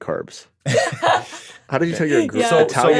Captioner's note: laughing